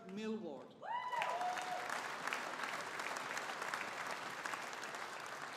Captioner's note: audience applauding